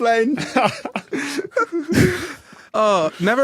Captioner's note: chuckles; laughter trails off